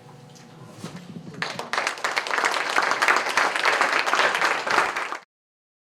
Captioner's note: applause